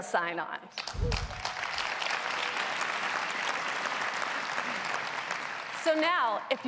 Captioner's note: applause